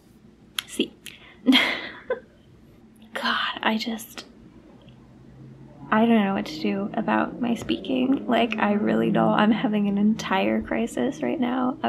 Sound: laugh

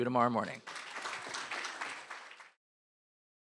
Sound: applause

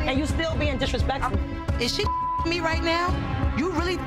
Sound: beep

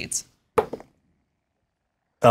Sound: dice roll

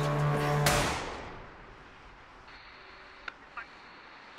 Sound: tense music; gun firing

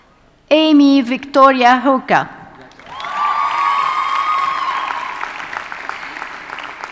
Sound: audience cheers and applauds

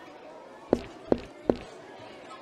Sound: footsteps

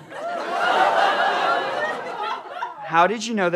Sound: audience exclaims

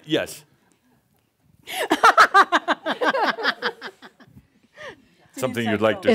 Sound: laughs at the person’s reaction

